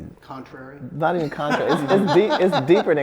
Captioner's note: laughs